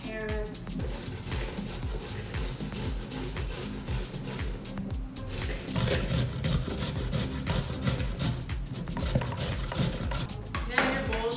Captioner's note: grating Carrots